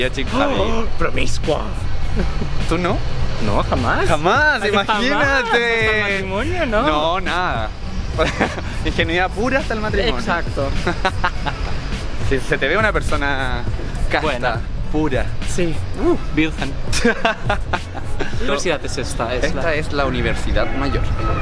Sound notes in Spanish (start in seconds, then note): 16.9 risas